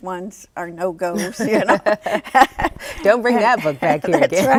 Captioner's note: laughs